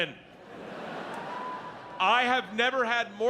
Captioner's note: audience laughs